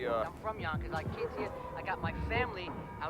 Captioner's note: people chattering; loud music booming